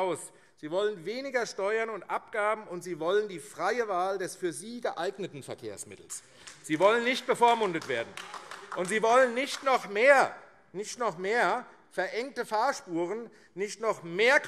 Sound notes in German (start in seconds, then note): 8.3 Beifall AfD